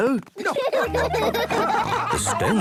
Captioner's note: laughing